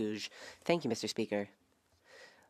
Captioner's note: speaking French